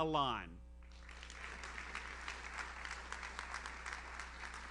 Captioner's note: audience applauds